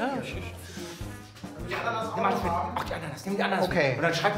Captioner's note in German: Stimmengewirr